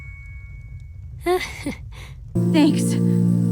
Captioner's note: nervous laugh